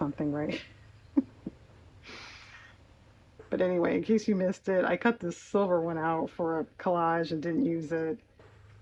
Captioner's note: laughs